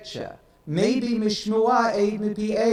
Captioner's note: speaks in foreign language